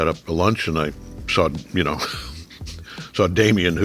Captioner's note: J.K. chuckling